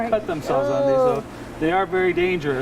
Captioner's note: exclaims